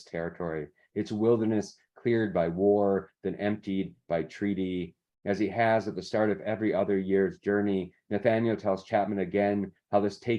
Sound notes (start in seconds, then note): none